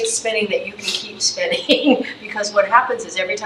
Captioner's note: chuckles